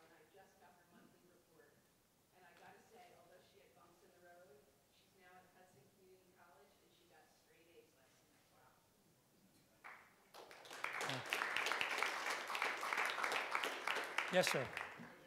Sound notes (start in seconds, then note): 10.3 audience applauding